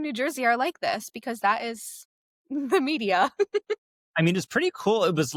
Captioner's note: chuckling